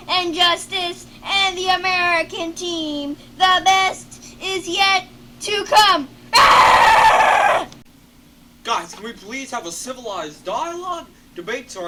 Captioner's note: screams